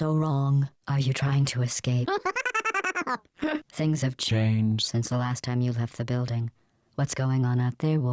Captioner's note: chuckle